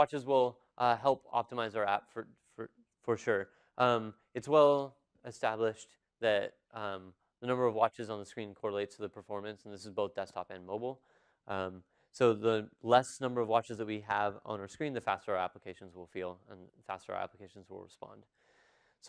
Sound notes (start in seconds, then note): none